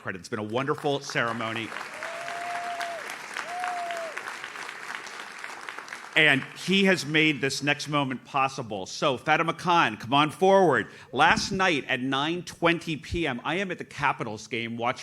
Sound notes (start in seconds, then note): 0.4 audience claps